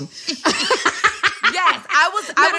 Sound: laughter

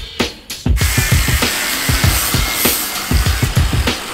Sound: sparks buzzing

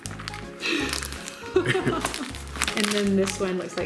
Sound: laughing

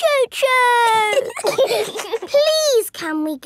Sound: giggling

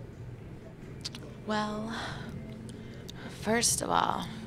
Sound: sighs

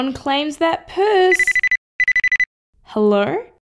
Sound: ringing!

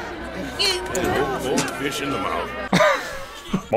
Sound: crowd laughing; gaging; chuckling

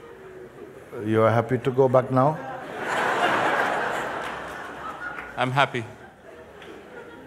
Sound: laughter

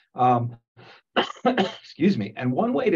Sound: coughs

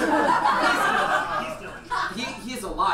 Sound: audience laughs

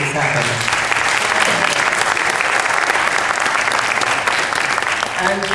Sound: clapping

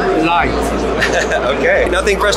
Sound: laughs

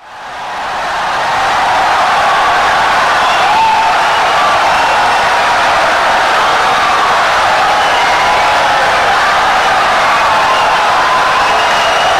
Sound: wild applause and cheering for 17 seconds

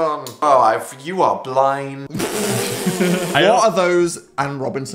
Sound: blows raspberry

